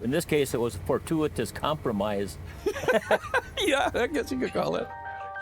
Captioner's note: both laugh